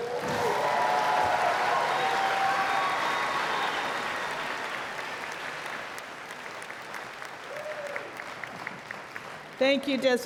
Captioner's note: cheers and Applause